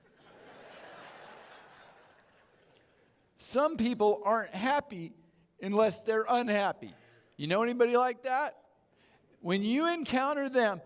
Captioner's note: audience Chuckles